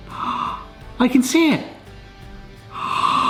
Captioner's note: gasps